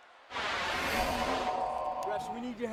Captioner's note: graphics whooshing